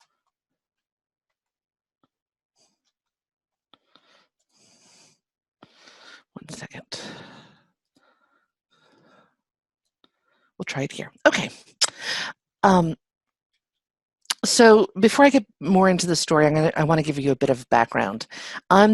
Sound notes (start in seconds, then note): 7.8 sighs